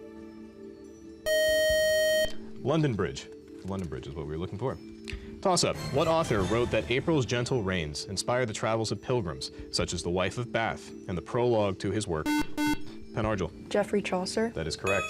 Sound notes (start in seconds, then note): 1.2 time-out buzzer; 12.2 buzzer